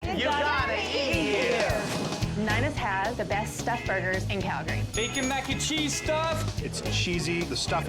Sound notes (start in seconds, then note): 1.6 logo whooshes; 1.8 happy music; 4.9 bell dings